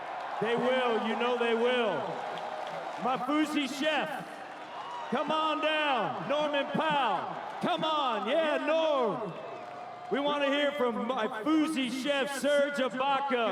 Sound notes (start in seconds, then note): 2.5 cheering and Applause